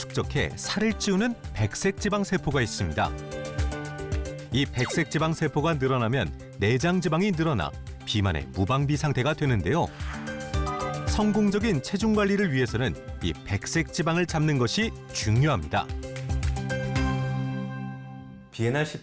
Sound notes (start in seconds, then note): 1.5 voiceover